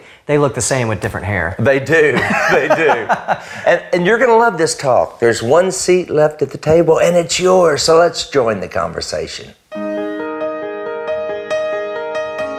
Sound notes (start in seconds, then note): 2.1 laughs; 9.7 lively music